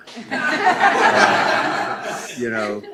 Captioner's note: laughing